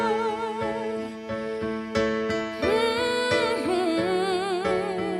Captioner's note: humming